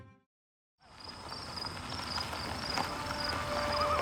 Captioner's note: tires on gravel